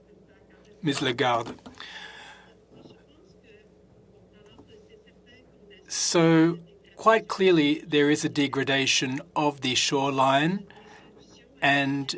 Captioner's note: speaking French